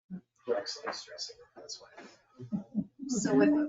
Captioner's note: speaks distantly